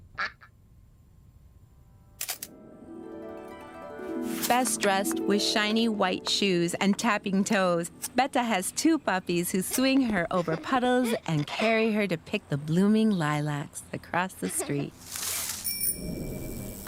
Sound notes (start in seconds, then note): 0.1 duck quacks; 2.2 camera shutter snaps; 3.0 harp music; 15.6 bell chimes